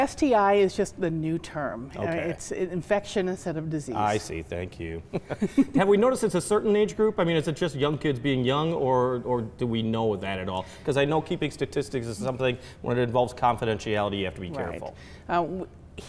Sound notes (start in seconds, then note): 5.1 chuckles; 5.1 chuckling